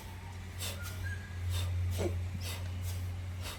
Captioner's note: audible rhythmic inhalation & exhalation